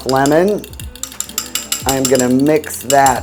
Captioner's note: fork clanging